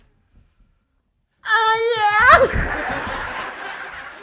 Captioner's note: moaning